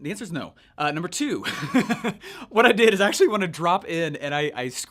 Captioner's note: laughs